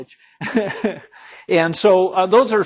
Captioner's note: instructor laughing